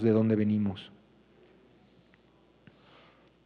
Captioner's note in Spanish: Expositor habla en inglés